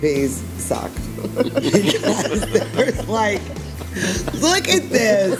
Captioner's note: group laughs